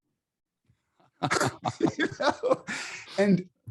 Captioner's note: both laughs